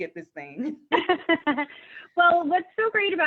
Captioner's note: laughing